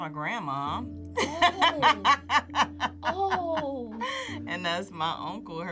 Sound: laughs

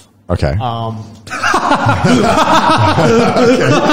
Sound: laughs

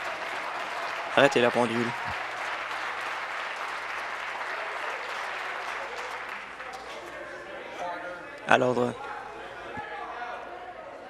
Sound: some Applause

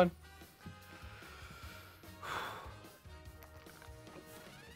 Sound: exhales

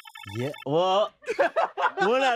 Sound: laughs

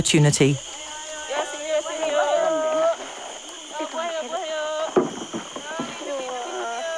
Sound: people yelling in foreign language

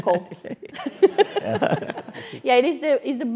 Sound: laugh

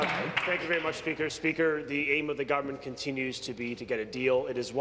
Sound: applause

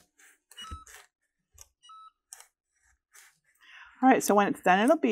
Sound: machine beeping

